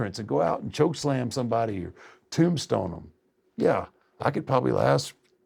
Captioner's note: none